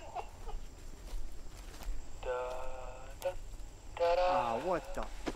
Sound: radio activates/laughter; radio-sings/hums tune

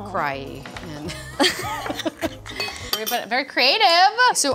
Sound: women laugh

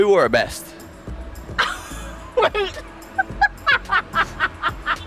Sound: laughing

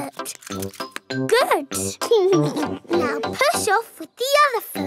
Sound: chuckles

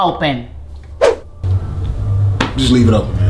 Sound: cartoonish whiplash sound

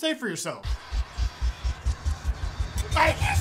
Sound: scary noises

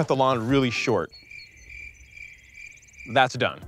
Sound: crickets chirping

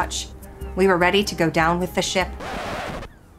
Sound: record scratch

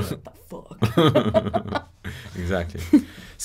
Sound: laughing

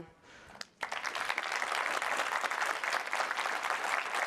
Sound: audience applauds

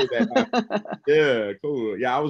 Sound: laughs

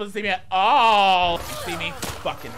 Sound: zombie groaning; guns blasting

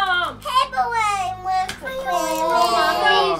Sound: babling

